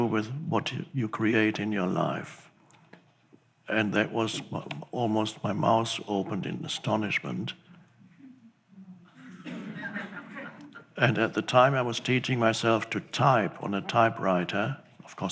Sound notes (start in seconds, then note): 9.1 audience laughs